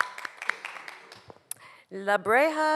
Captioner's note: audience Applauding